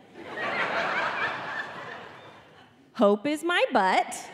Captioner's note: audience laughing